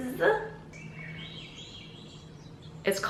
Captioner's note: birds chirping